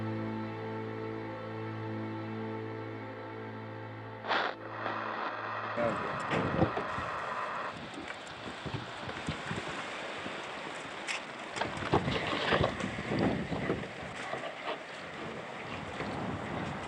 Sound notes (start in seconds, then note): 4.2 static hisses; 7.5 rain falling, wind gusting